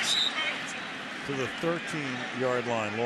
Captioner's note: whistle blows